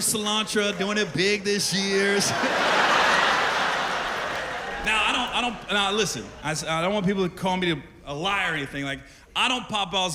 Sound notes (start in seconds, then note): 2.1 laughter